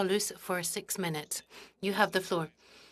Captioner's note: speaking French